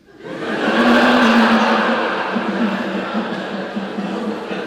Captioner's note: congregation laughing